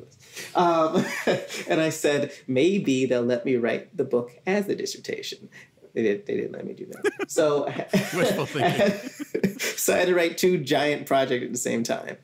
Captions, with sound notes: This is ridiculous.” [chuckling] Um, and I said, maybe they'll let me write the book as the dissertation. They didn't let me do that. [laughing] Wishful thinking. So I had to write two giant projects at the same time.